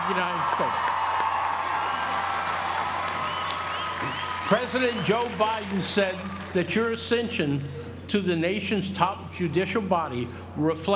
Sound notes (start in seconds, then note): 0.0 applause